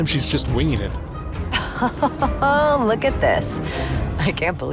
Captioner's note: laughs